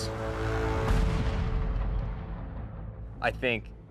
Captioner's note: gun fires